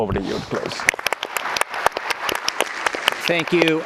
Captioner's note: applause